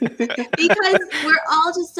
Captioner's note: laughing